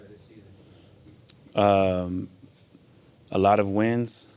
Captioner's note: tongue clicks